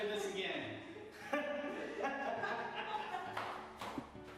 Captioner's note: laughing